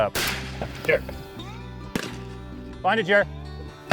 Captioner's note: gunshots